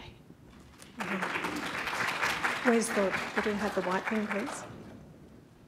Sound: appaulse

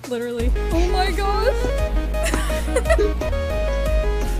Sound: giggles

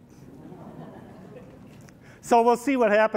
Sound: laughter

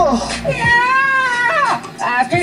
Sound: contestant yells

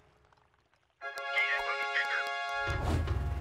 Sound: clapping

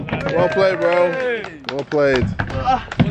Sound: everyone clapping

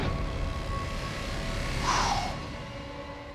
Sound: exhales

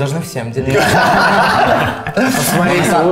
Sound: girls laughter

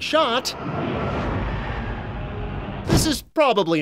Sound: in-game atmospheric noise

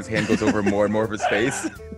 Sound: laugh

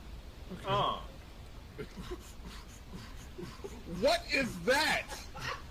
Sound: someone making rhythmic grunting, breathing sounds; laughing

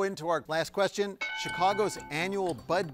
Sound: bell dinging

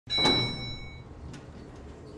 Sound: elevator bell

